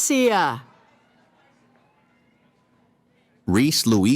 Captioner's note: cheering